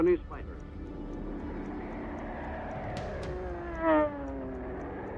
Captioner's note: plane engine roars